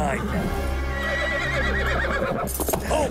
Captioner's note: horse neighs